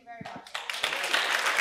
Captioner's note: applause